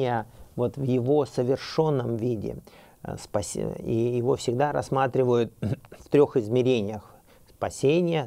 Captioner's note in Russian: прочищает горло